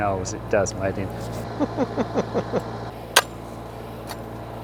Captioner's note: laughs